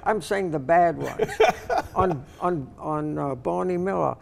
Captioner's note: laughing